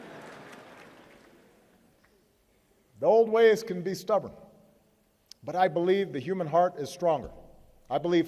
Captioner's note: laughter